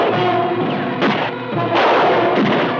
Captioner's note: gun fires